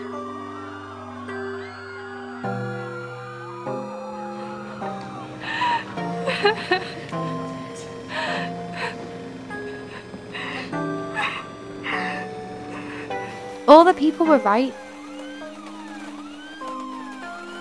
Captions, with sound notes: *People screaming* *Crying* All the people were right